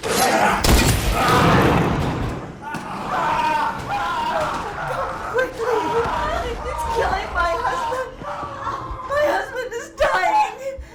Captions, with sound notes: (Brad growls) (gun firing) (man screaming) (blows thudding) Come quickly, he, he's killing my husband. My husband is dying!